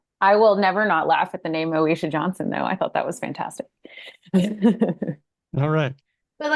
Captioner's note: laughs